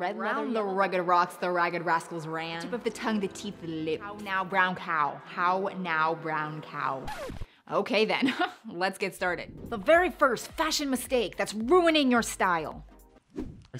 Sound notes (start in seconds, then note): 7.0 record scratch